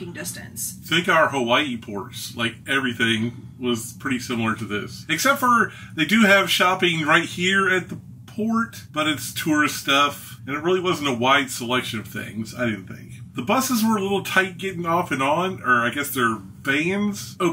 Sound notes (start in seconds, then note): none